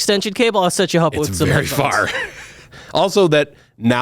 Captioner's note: laughs